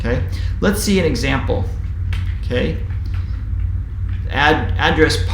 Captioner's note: keyboard typing sound